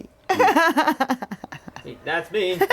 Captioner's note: laughs